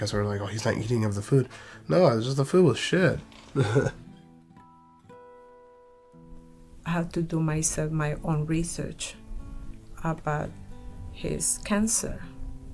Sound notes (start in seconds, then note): 3.5 laughs